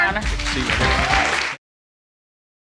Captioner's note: audience cheering